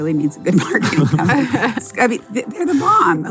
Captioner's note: everyone laughs